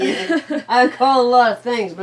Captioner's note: donna laughing